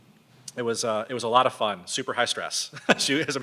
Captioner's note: laughs